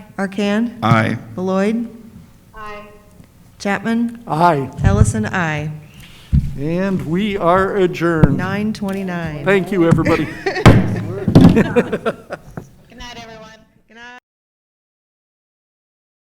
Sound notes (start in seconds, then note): 9.7 laughs